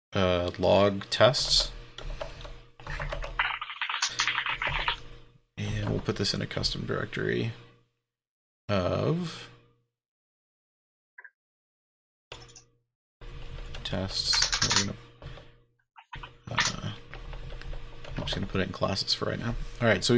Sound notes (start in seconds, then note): 2.8 keyboard keys clanking